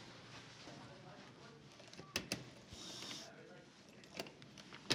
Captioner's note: chattering